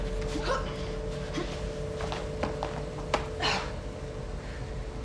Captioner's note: fighters grunting